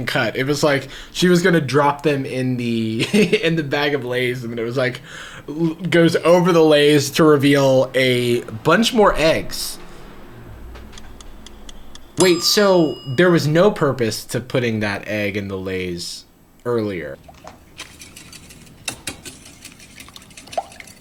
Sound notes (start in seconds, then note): 10.9 clock ticking; 17.3 whisk sloshing